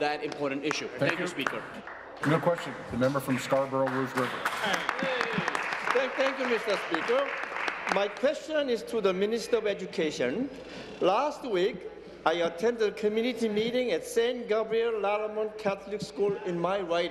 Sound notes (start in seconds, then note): 8.9 applause